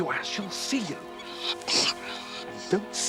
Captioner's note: nasal sounds